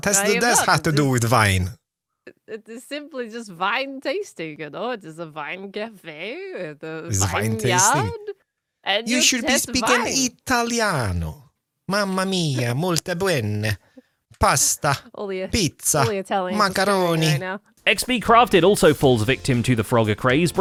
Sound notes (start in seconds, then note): 0.0 faux-German accent; 2.7 faux-German accent; 9.4 faux-Italian accent